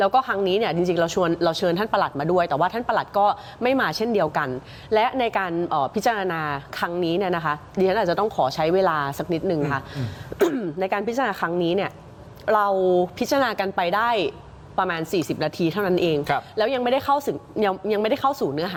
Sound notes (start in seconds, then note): 9.9 clears throat